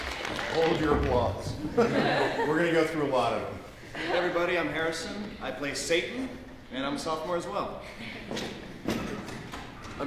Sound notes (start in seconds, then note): 1.6 laughter